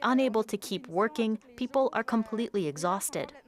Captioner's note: speaking French